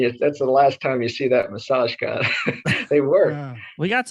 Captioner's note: laughs